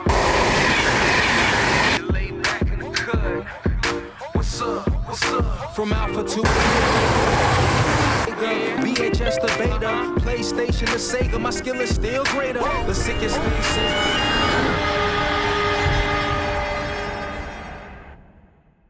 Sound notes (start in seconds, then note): 0.0 loud rumble; 1.9 hip hop music; 6.4 loud rumble; 8.2 hip hop music; 12.6 rumble of train approaching; 13.0 loud train horn